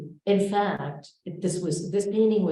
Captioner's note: none